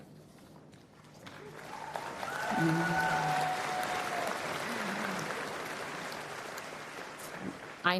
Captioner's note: applause and Cheering